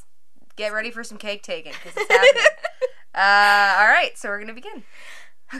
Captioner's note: laugh